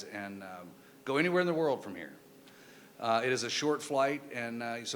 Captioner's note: none